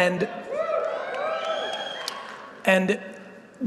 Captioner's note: audience cheering